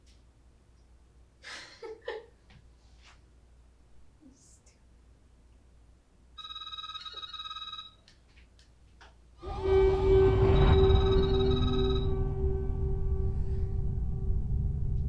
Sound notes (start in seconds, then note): 1.4 Natalie laughing; 6.4 phone ringing; 9.4 ominous music